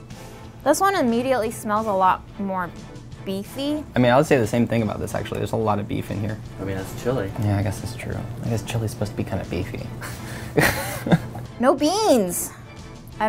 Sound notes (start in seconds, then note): 10.0 laughing